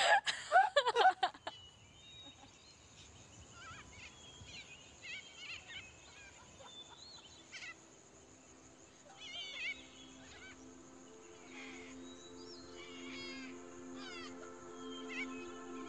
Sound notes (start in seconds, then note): 1.7 laughter; 9.3 birds chirping; 9.3 placid music